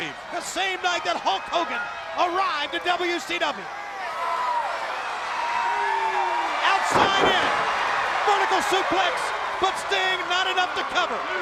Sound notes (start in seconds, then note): 4.2 crowd cheering